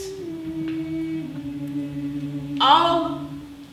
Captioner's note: more voices join the woman humming